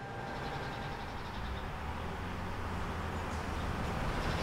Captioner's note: distant traffic noise